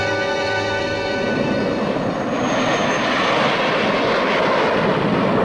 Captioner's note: plane engines roaring; planes whooshing